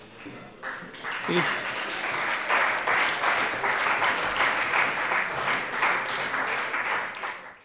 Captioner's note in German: Beifall bei der CDU und dem BÜNDNIS 90/DIE GRÜNEN